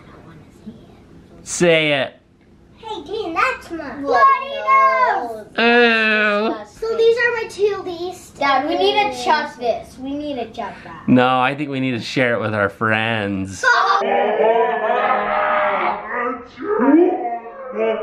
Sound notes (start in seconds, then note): 13.6 kids laughing